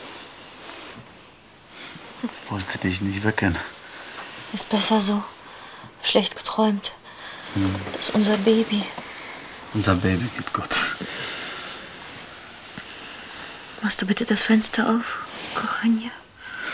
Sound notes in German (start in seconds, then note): none